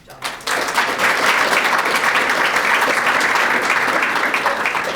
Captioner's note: audience applauding